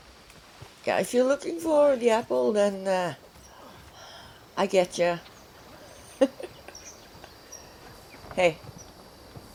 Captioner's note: chuckles